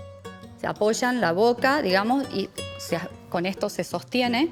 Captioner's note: speaking Spanish